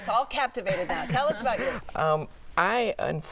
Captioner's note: laughter